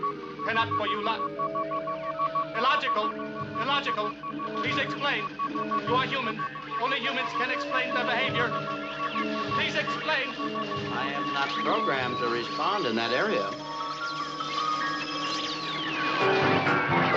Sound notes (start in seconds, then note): 11.5 robotic voice; 14.0 circuit frying noises